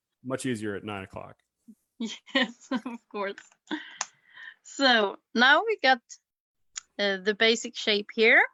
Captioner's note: chuckles